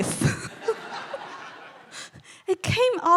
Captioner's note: all laughing